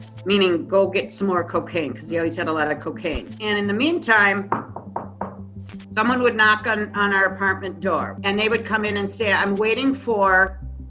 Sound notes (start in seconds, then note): 4.5 knock